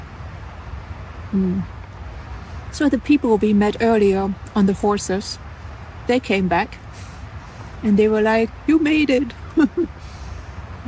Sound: laughs

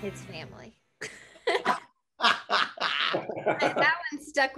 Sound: laughter

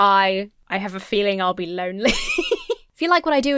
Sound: laughs

